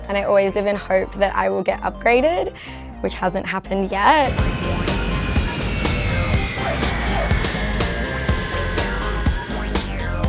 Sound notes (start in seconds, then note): 4.2 plane engines roaring; 4.3 upbeat music